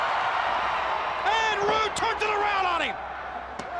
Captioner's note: crowd cheering